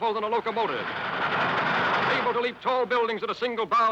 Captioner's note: train tracks rattling